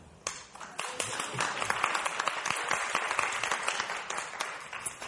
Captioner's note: audience applauding